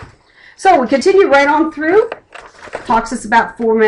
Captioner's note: flipping page